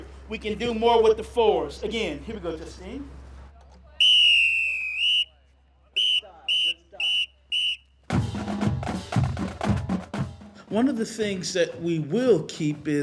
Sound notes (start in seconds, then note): 4.9 marching band music; 5.9 whistle blowing